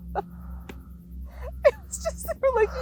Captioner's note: laughs